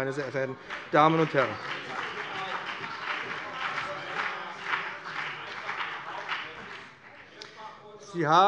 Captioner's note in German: Beifall BÜNDNIS 90/DIE GRÜNEN und CDU - Zurufe SPD